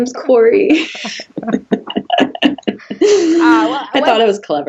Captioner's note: both laughing